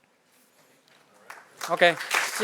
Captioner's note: applause